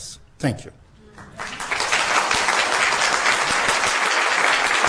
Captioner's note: applause